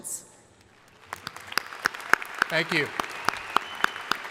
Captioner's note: crowd applauding